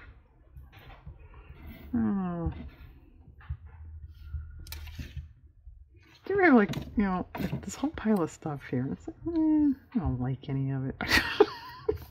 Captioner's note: laughs